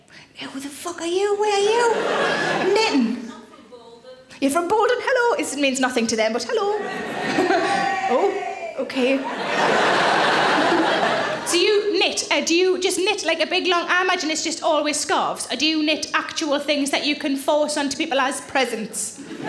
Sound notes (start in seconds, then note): 7.3 woman cheers; 9.2 audience laughing